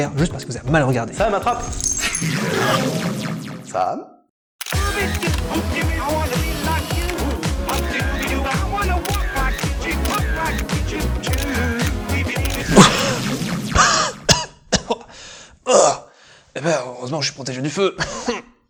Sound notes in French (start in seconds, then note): 12.5 Tousse